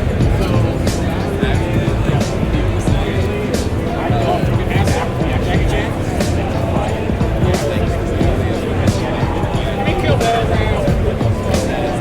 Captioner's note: crowd chattering